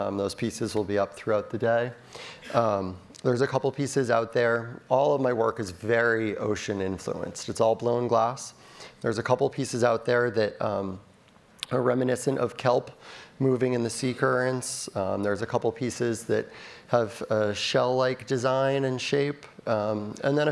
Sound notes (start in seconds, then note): none